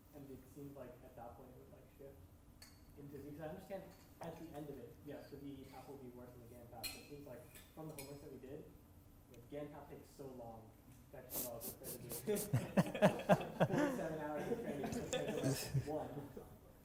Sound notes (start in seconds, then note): 13.0 laughs